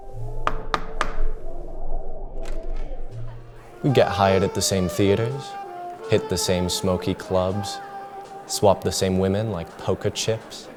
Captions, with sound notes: [rap, rap, rap] [door clicks] We'd get hired at the same theatres, hit the same smokey clubs, swap the same women like poker chips.